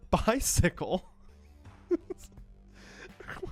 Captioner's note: laughing